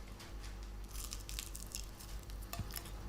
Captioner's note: crunchy crunch